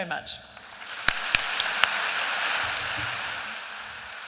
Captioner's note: applause